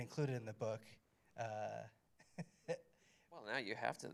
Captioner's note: chuckles